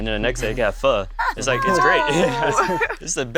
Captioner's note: laughter